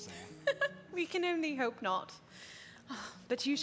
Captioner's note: laughs